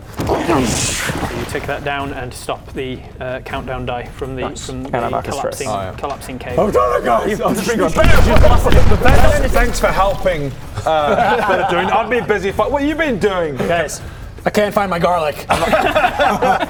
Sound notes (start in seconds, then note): 7.9 bam bam bam!; 15.5 uncaring laughter